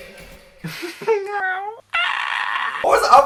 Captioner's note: giggle; screeches for help